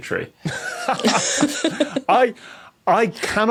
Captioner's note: others laughing